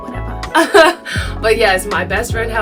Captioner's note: laughs